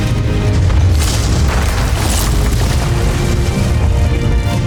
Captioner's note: glacier cracks & rumbles; music fades